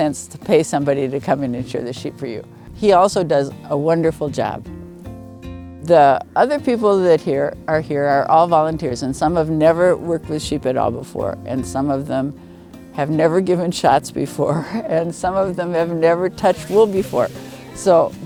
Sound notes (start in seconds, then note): 14.1 laughing